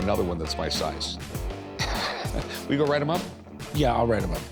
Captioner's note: laughs